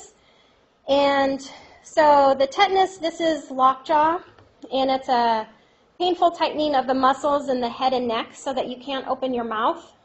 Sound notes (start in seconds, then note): none